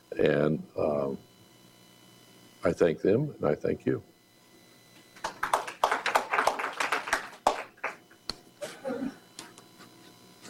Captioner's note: applause